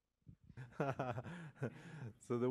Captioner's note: laughs